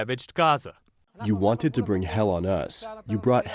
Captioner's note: through translator